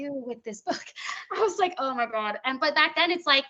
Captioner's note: chuckling